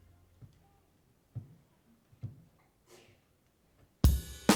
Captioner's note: footsteps echoing; soulful music continues